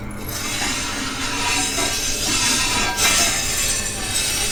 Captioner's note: grinder scraping